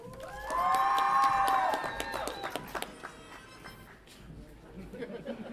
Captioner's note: audience applauds and cheers